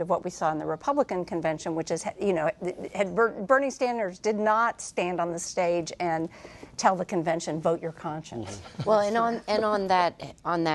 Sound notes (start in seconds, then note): 8.5 laughter